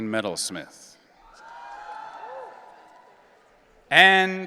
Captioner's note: audience cheering